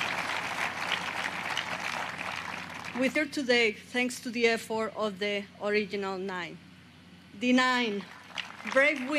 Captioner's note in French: applause; applause